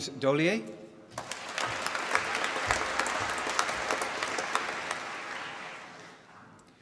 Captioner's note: applause